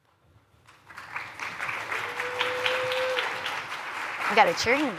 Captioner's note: applause